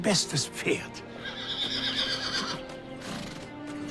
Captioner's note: Bucephalus whinnying